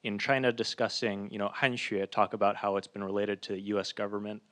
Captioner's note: speaking in foreign language